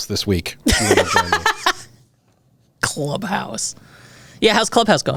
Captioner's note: laughs